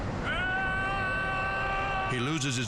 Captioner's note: yelling